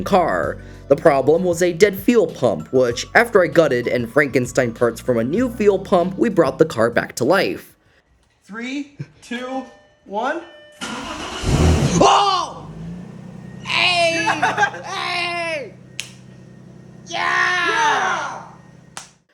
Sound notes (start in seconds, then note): 10.8 engine turns over